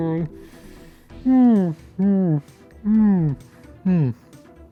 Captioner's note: yawn